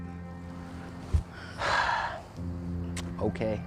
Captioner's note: sighs